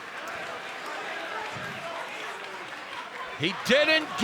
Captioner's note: crowd shouting